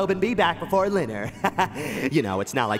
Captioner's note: laughs